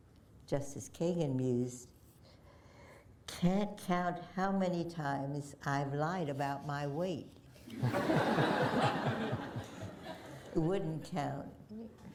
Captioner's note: laughter